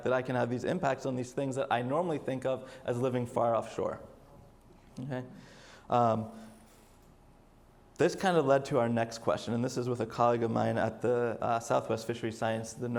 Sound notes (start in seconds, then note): none